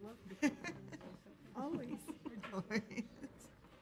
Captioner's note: audience laughs